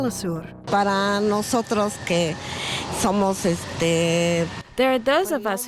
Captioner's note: speaking spanish